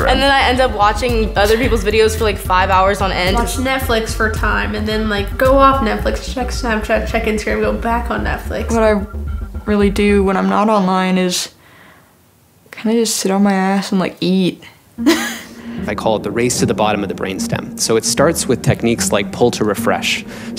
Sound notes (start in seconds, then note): 11.6 no audio